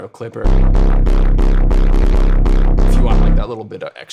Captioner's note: electronic tones sounding